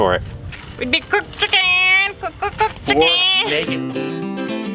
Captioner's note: clucking sounds